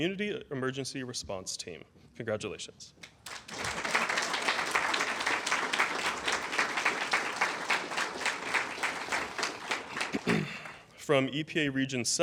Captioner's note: applause